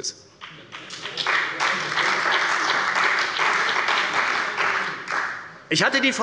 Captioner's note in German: Beifall bei der CDU und bei dem BÜNDNIS 90/DIE GRÜNEN